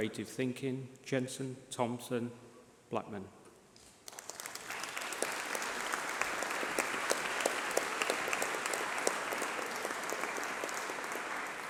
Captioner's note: applause